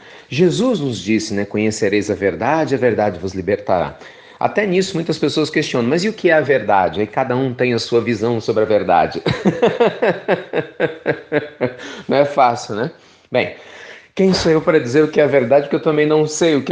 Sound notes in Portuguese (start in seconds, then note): 9.2 risos